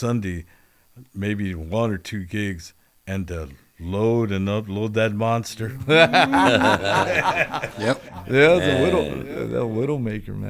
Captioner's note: laughter